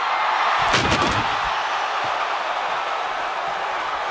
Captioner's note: crowd cheers; table crashes